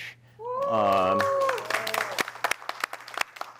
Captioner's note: applause